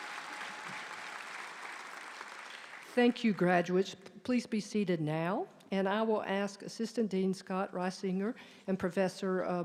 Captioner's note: applause